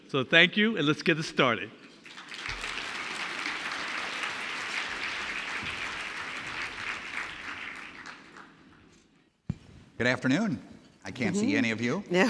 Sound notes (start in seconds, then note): 2.0 audience clapping